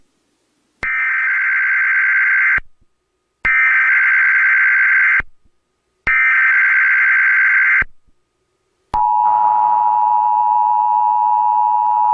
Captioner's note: emergency Alert Tone